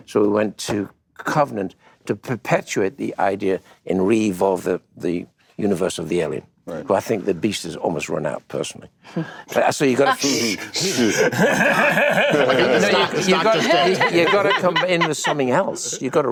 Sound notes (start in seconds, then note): 10.0 hushes; 10.1 laughter